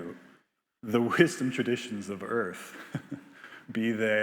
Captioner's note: laughs